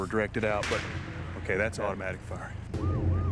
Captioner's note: gunfire